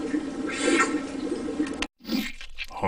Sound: slurps

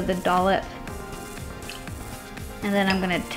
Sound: splash of Liquid in Shaker

